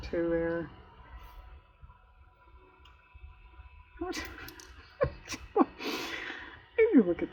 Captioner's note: laughs